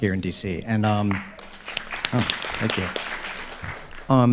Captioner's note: audience clapping